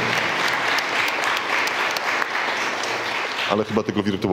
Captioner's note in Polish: oklaski